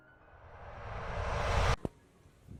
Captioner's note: screeching